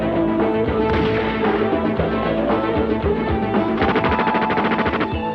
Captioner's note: gunshot firing; machine gun rattling